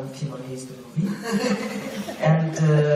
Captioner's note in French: rires